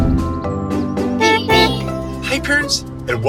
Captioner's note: horn honking